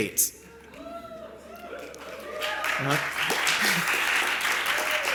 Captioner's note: cheering and applause